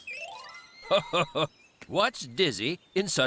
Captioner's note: laughing